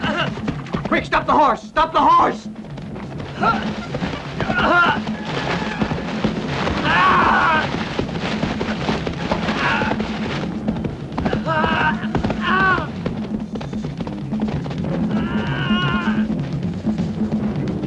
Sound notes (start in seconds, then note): 2.2 crying out; 2.2 dramatic music